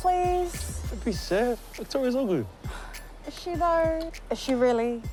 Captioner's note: sighs